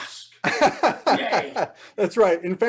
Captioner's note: laughing